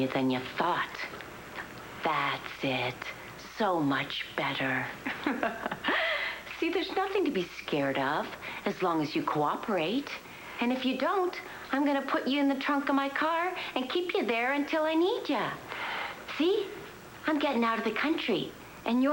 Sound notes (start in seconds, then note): 5.0 allison laughs